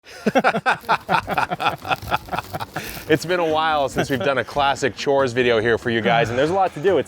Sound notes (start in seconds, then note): 0.0 laughing